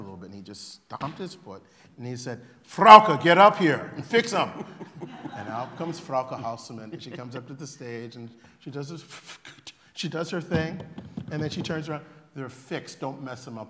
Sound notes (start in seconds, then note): 4.0 laughter